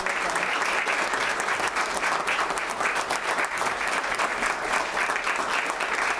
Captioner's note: applause